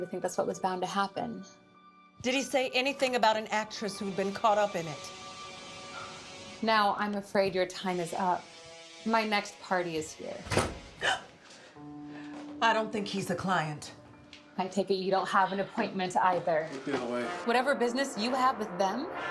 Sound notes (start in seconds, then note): 5.6 dramatic music; 10.4 door clicks; 10.5 Eleanor gasps